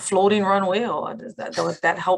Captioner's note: chuckles